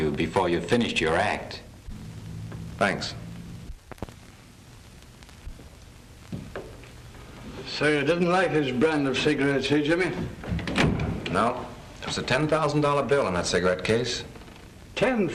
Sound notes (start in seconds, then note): none